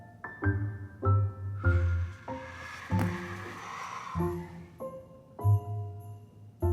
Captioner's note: jaunty Christmas music; William exhaling